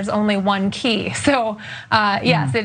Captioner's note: laugh